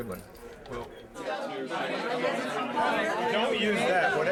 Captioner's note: overlapping chatter